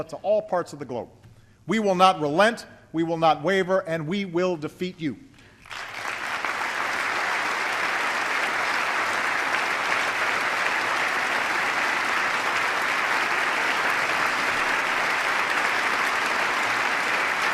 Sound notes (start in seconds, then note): 5.6 applause